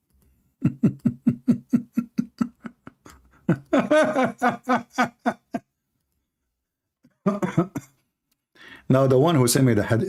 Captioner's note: Ketawa